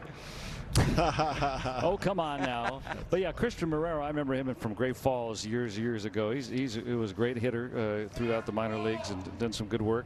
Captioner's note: laughing